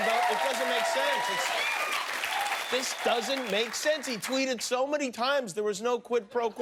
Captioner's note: cheers and applause